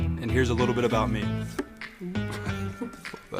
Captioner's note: tap